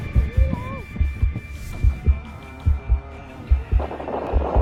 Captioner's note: fast heart beats continue; swoosh, swoosh!